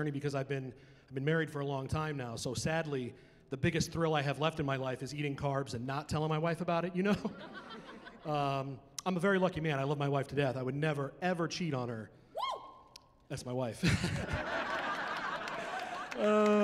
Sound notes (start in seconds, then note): 7.1 laughter; 13.8 laughing